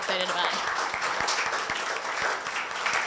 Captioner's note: applause